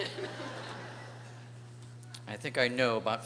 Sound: laughter

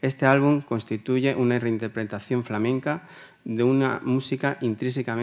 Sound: continues in Spanish

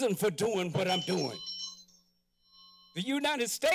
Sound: bell ringing

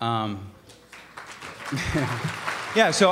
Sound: applause

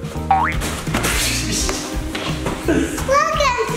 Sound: boing

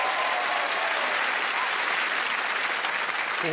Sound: crowd applauds and cheers

